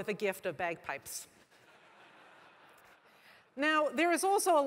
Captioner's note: laugh